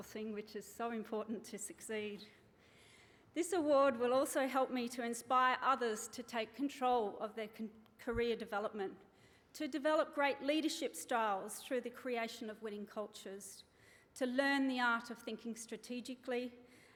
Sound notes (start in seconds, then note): none